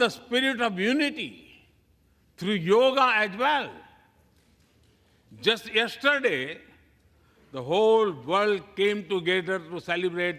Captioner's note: applause